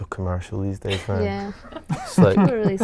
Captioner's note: laughing